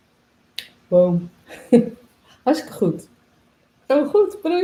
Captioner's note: laughs